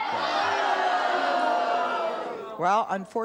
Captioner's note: audience uproar